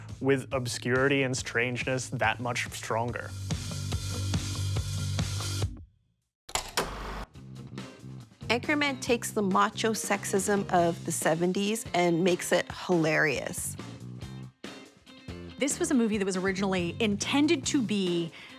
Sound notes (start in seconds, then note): 3.9 upbeat music; 6.5 film reel clicks